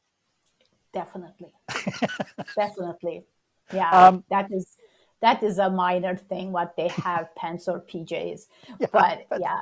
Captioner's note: laughs